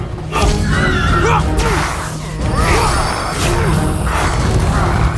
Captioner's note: character grunting